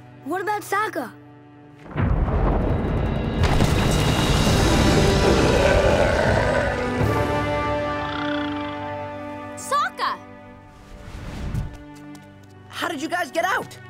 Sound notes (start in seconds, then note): 3.4 explosion; 4.6 growling